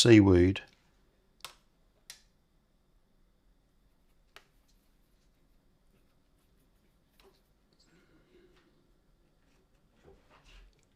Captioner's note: silence